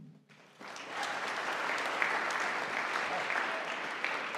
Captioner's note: audience applauding